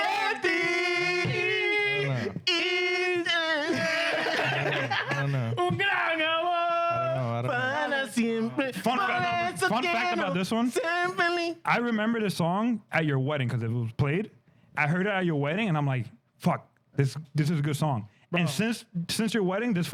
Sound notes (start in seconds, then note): 3.5 laughing